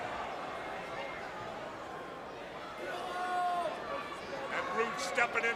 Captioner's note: crowd chatter